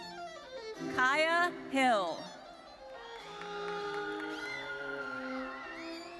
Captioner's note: audience cheering